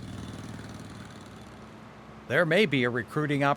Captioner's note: engine and pump running sounds